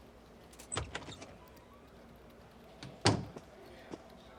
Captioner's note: door opens, closes